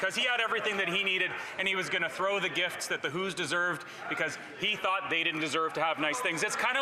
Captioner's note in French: voix de l'interprète